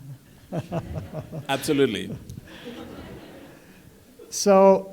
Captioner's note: laughter